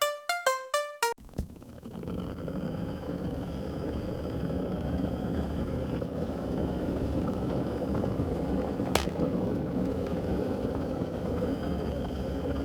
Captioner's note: kettle boiling